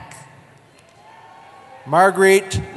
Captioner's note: cheering